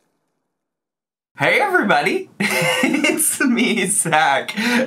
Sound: laughs

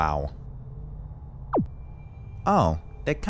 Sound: device beeps

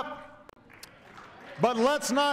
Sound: applause

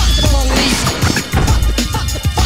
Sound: door closes

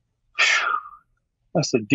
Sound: exhaling

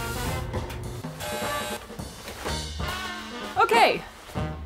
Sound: dryer buzzing

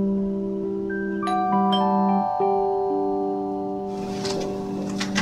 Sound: doorbell rings

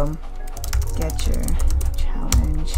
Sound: keyboard typing

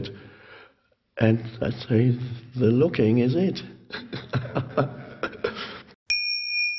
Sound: laughs

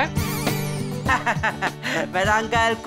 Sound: laughing

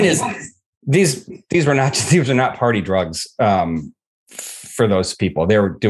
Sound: chuckling

